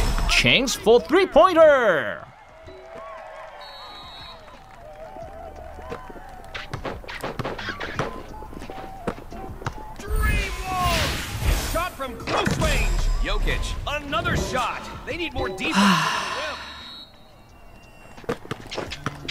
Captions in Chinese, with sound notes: Chance for three pointer （長嘆一聲）